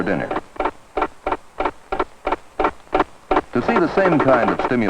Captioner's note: pecking